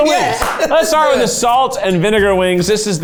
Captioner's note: claps